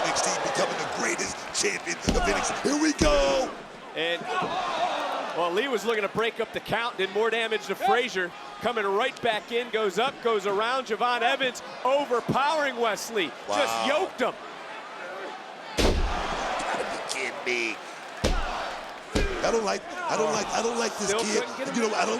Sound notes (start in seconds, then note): 15.8 thuds; 18.2 referee thuds